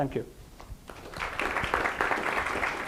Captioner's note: applause